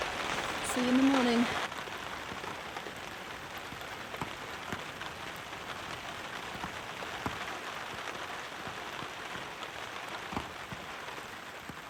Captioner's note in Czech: zvuky deště